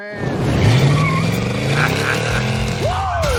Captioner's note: engine revs; chuckles